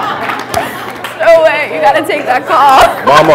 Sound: laughter

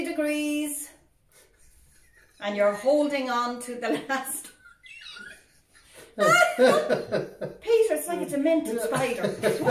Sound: laughing

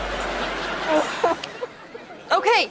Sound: crying

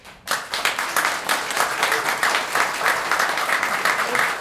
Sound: applause

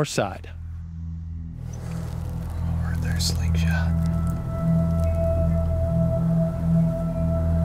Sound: whispering

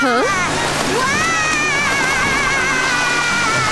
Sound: Wilk yelling

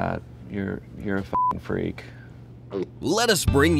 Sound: beep

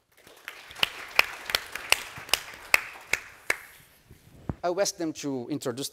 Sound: audience applauding

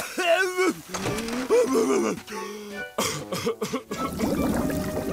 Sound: gasps, coughs

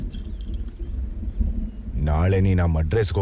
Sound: rain Sound

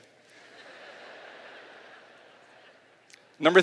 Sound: laughter

